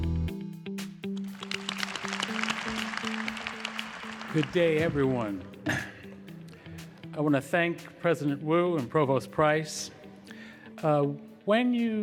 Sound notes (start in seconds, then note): 1.2 applause